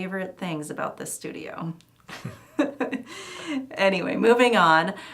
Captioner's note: laughing